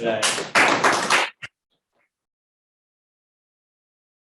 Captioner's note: audience clapping